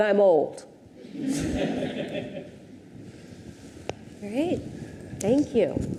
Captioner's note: audience laughs